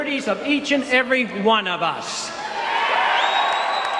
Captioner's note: cheers